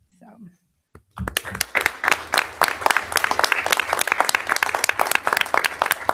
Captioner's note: audience applauding